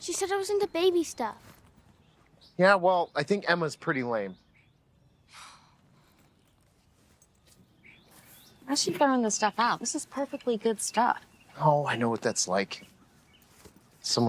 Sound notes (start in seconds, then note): 5.3 Stevie sighing